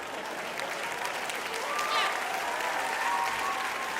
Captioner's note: applause